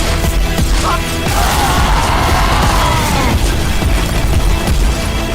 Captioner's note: screams of multiple nationalities